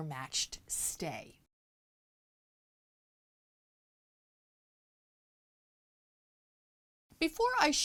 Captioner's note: no Sound Present